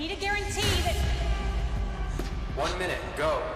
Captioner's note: gunshot echoing